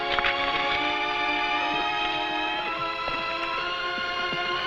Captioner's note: horse hooves pattering